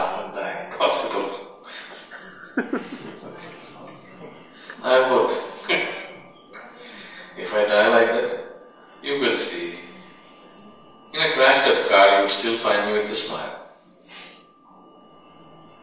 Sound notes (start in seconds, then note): 1.8 laughter; 5.4 laughs